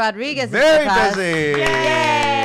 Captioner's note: clapping